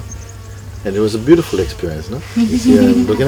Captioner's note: chuckling from the group